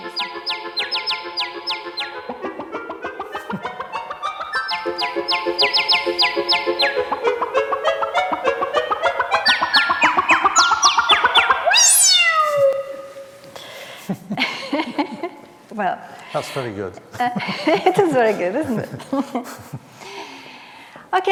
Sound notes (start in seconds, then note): 13.7 both laughing